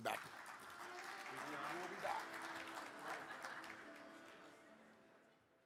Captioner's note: audience applaud